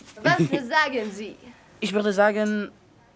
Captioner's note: Phil laughing; Kat speaking in foreign language; Phil speaking in foreign language